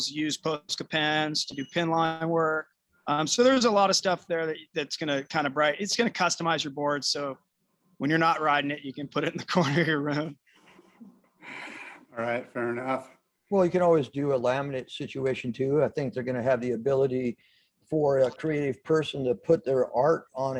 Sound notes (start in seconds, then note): 9.6 laughter